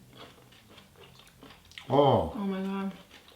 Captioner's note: chewing sounds